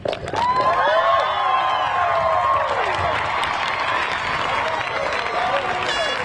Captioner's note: crowd applauding; crowd cheering